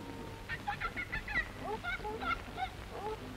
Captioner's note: animal noise